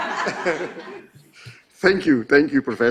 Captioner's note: laughing